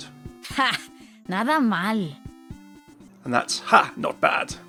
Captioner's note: Sombra speaking in foreign language